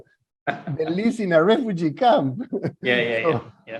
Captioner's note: laughs